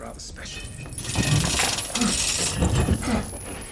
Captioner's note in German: Keuchen